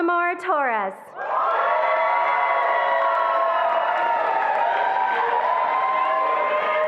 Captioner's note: attendees applauding and cheering